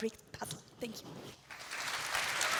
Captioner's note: applause